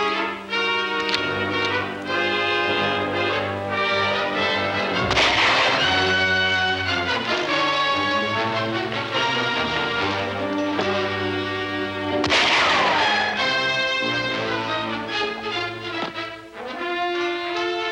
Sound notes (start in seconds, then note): 4.9 gun firing; 12.2 gun firing; 14.9 suspenseful music